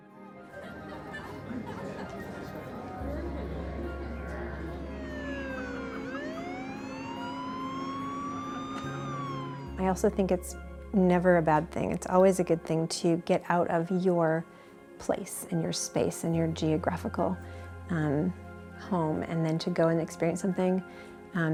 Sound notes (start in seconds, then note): 0.2 uplifting music; 5.8 sirens